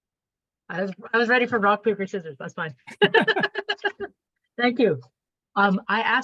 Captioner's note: laughs